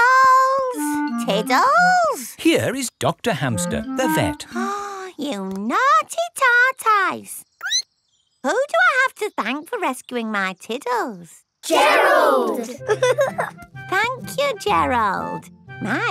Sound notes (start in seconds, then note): 4.9 gasps; 7.4 squeaks; 12.6 giggling